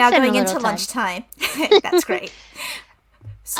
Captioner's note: laughs